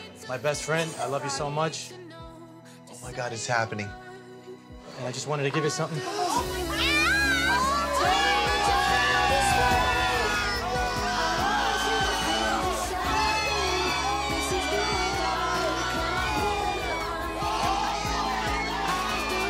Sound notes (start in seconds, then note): 6.7 shouting & cheering; 11.9 cheering